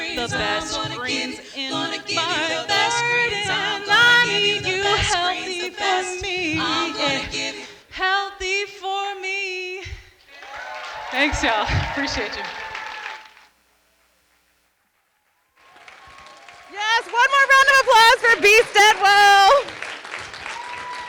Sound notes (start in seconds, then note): 10.3 audience applauding